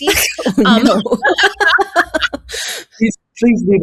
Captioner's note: all laughing